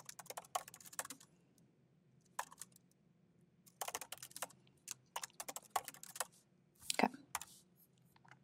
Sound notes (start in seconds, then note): 1.0 keyboard clacking continues